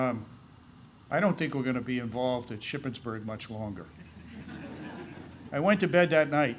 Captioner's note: laughter